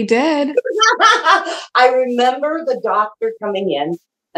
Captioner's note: laughs